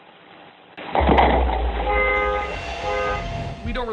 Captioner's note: loud boom; car alarm honking